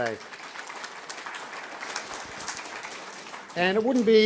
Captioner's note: audience clapping